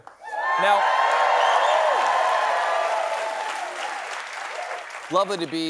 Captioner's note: cheers and applause